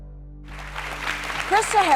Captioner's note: audience clapping